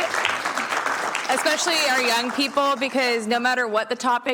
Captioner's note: applause